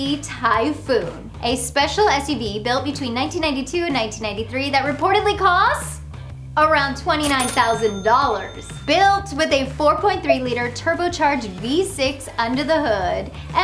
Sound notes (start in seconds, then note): 7.2 cash register dings